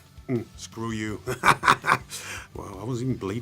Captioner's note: laughs